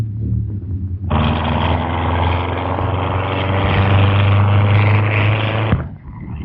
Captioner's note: distant rumbling